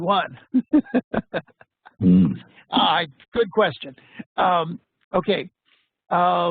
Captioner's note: laughs